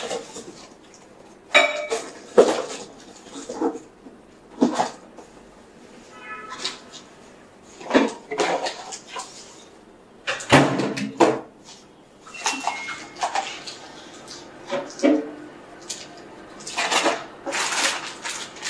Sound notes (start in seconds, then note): 1.5 dishes clattering in dining room; 6.2 more rummaging sounds; 10.2 microwave door and beep in the back